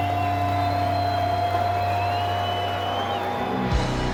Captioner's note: applause; cheers; rock music